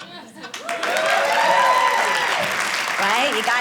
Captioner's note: audience applauding